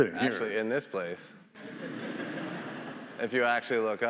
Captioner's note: attendees laughing